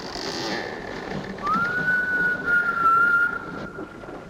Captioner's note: whimpers